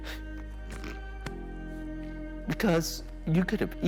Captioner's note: sobs